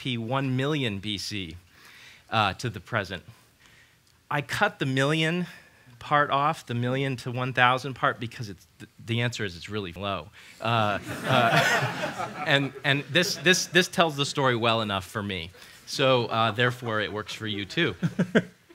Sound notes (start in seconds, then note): 11.0 laughter